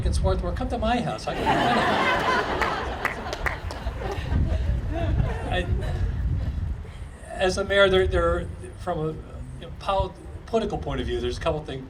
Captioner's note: audience laughing